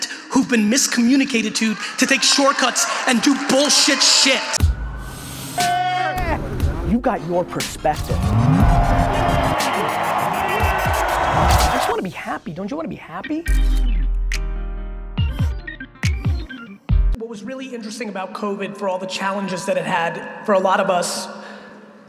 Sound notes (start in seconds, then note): 8.0 audience cheering; 13.6 upbeat music